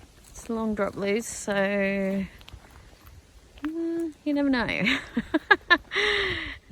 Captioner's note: chuckles nervously